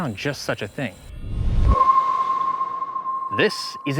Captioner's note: whoosh and ethereal chirp